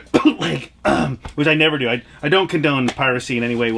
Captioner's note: coughs